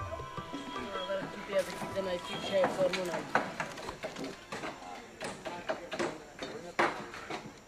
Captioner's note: dramatic music; speaking foreign language